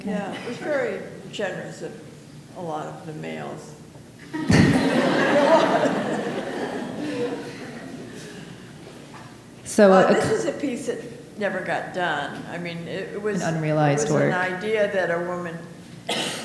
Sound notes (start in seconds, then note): 4.3 audience laughing